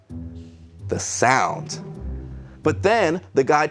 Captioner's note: echoes